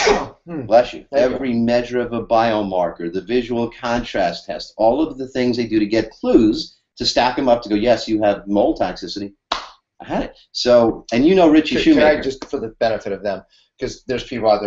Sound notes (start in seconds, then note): 9.5 claps